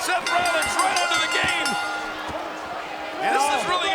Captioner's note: bell rings